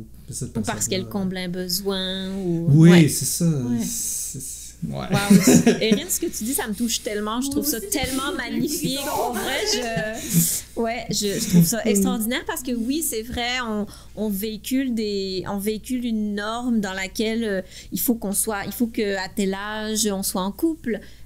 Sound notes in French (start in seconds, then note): 5.1 rires